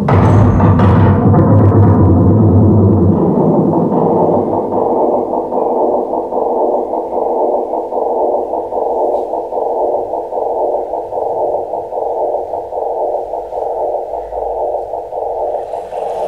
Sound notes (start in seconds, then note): 3.6 loud thudding noises roll away becoming like static tones repeating